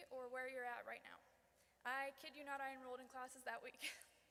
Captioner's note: laughs